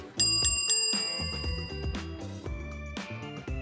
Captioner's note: text dings